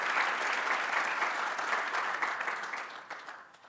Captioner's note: applause